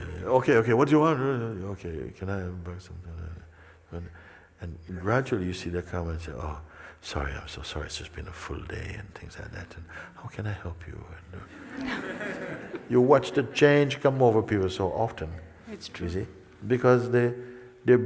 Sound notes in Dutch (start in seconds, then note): 11.5 gelach